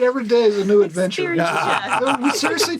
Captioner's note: laughing